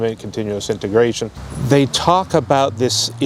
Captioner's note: vehicle driving